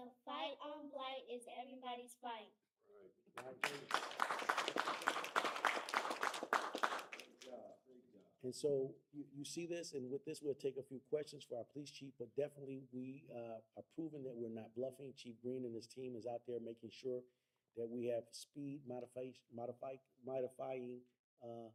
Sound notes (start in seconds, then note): 3.4 applause